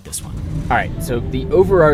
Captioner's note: car driving on road